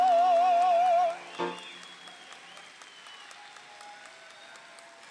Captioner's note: audience applauds